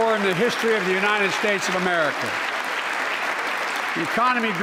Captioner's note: applause